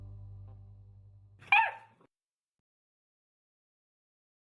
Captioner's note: bark